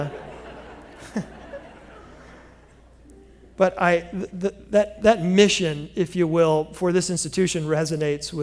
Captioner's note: laughter